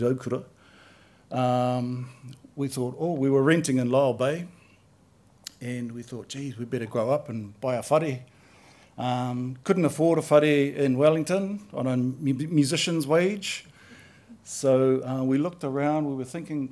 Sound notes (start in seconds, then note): none